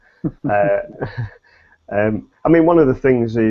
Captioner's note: both laugh